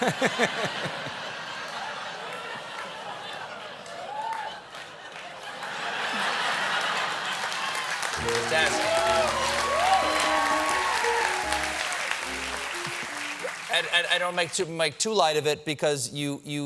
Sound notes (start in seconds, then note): 4.9 laughter; 6.1 applause; 12.9 piano riff